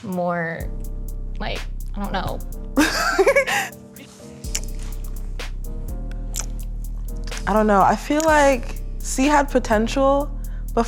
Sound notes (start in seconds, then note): 2.8 laughing; 6.0 lips smacking